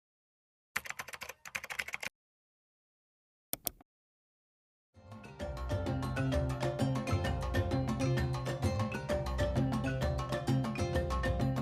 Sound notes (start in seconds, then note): 0.8 keyboard clacking; 3.5 mouse click; 5.1 upbeat music